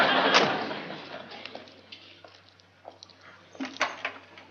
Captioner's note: door closes; footsteps